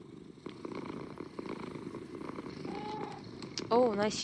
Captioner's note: cat purring intensifies